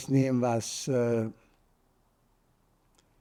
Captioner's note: pauses 6 seconds